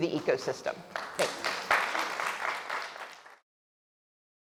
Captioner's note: audience applauding